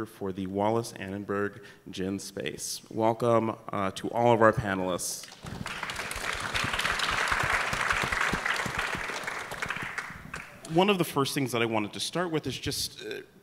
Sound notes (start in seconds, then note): 5.2 applause